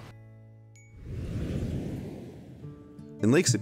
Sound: whooshing

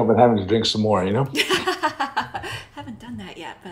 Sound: laughing

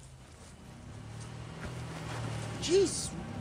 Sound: car approaching

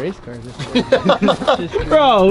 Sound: laughs

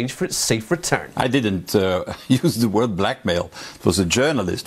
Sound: laughs

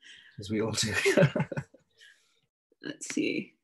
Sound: laughs

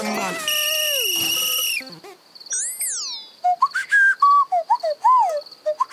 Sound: whistles

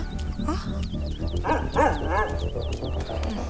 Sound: dog barking

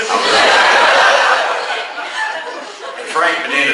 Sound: class laughs

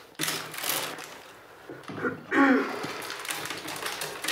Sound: she clears her throat

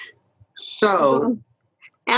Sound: laughs

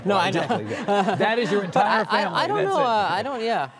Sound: laughter

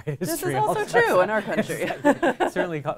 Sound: laughter

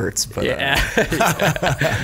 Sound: scattered laughs

